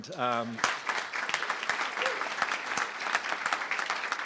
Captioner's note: crowd applauding